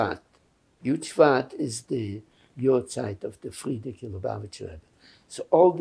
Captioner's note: hebrew; yiddish